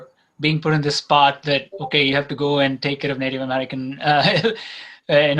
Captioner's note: laughs